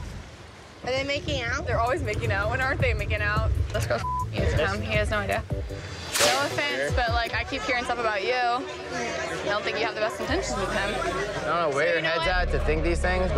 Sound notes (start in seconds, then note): 4.0 beep